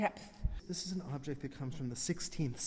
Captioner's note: voiceover